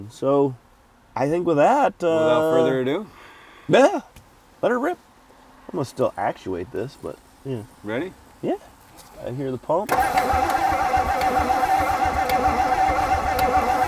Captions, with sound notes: So I think with that- - Without further ado. - Yeah, let her rip. I'ma still actuate this, but yeah. - Ready? - Yeah, I hear the pump. (vehicle engine humming)